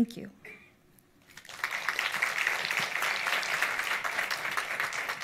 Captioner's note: audience applauds